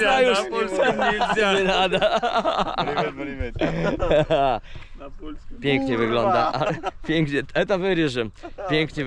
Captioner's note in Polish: śmiech